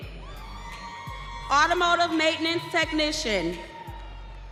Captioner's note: audience cheering